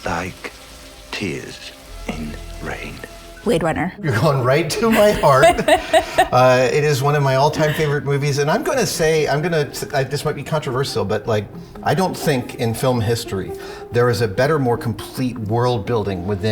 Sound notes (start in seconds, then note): 4.8 laughing